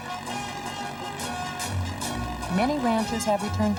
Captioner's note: tractor driving